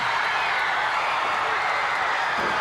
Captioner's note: crowd cheering